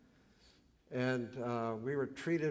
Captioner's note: none